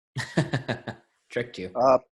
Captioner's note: laughing